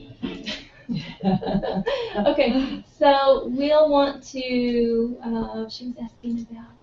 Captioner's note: laugh